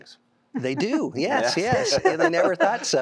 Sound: giggling; laughter

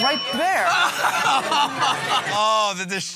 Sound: ding; laughing

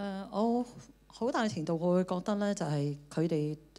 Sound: Cantonese

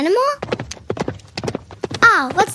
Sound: hooves clopping

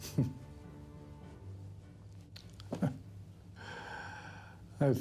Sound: chuckles

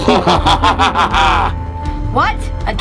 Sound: evil laughter

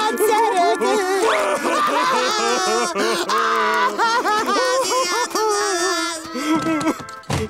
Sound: crying

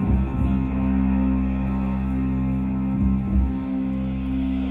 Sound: none

